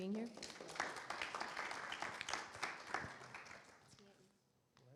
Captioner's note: audience applause